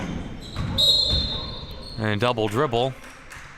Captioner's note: whistle chirping